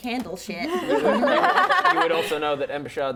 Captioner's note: laughing